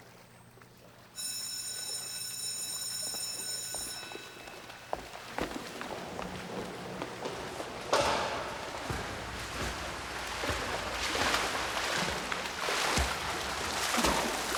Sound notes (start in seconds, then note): 1.1 bell rings; 4.9 water splashes